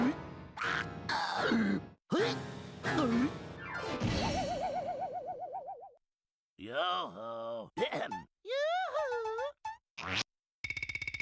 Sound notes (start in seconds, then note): 1.0 choking; 7.8 clears throat